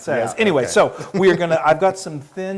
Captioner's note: laugh